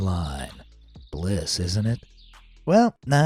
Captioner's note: birds chirping